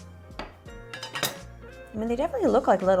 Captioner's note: knife clangs